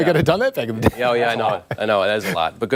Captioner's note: laughter